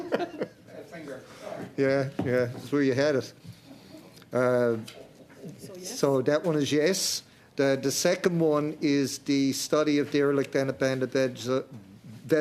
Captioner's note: laughter